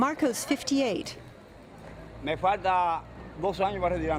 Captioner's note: none